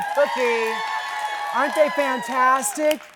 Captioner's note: audience cheering